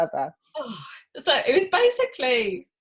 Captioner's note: sighs